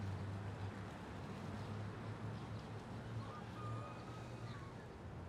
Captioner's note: background traffic